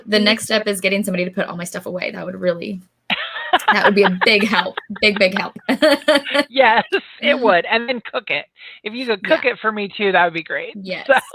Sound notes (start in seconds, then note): 3.1 laughs; 6.0 chuckles; 11.1 laughs